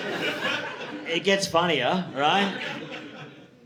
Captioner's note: audience laughing